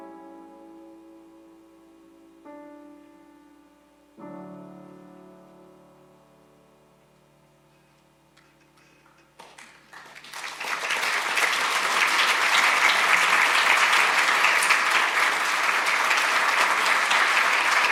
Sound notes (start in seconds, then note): 9.3 audience applauding